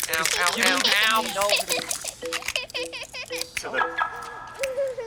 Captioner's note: beeping